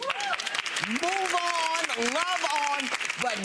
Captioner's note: clapping